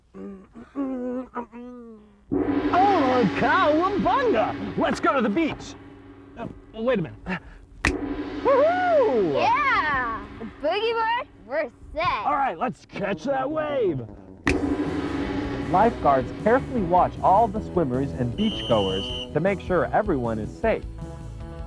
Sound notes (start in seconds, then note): 2.3 gong; 7.8 finger snaps; 7.8 gong; 14.4 finger snaps; 14.4 gong; 18.3 whistle